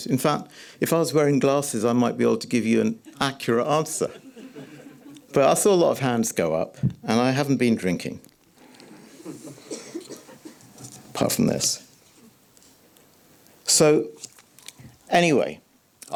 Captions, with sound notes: In fact, if I was wearing glasses, I might be able to give you an accurate answer. [audience laughs] But I saw a lot of hands go up, and I haven't been drinking. [audience giggles] [audience coughing] Apart from this. So, anyway...